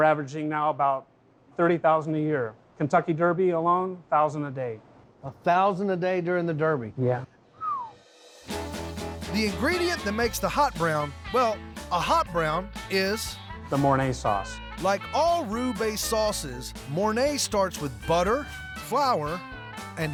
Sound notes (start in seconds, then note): 7.5 whistles